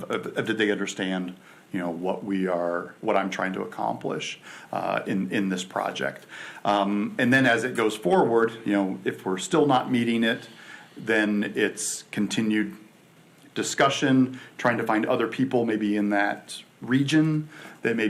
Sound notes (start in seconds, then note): none